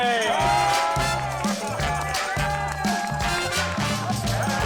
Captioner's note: cheering